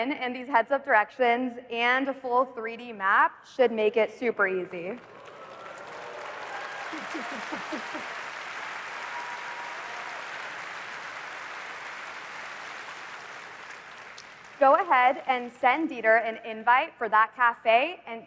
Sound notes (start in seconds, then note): 5.2 applause